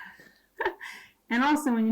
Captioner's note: giggles